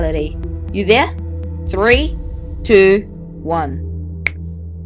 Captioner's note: thanos snap